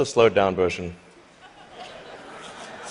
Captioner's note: laughter